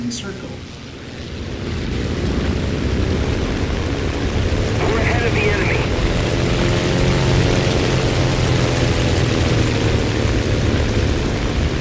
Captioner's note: aircraft Engines ,Gunfire, Flying Sounds